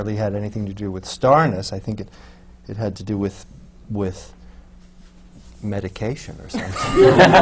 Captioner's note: laughter